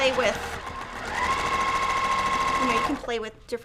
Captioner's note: sewing machine roaring